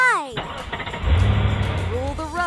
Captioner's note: engine starting